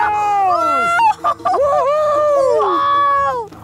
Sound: yelling

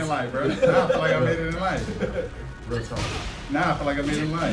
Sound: laugh

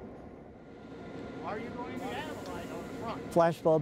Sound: indistinct conversations

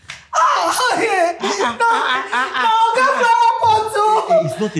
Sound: crying

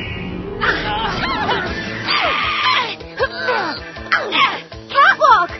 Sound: Rubbermaid and Covergirl groan repeatedly

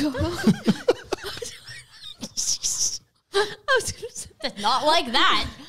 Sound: laughing together

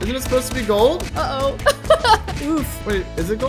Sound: laughs

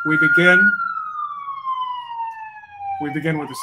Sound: sirens blaring

